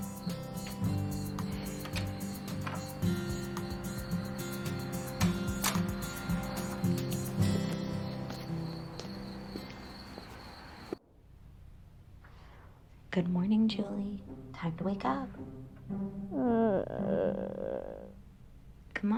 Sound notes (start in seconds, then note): 1.8 door clicks; 5.6 door bangs; 16.3 Julie groaning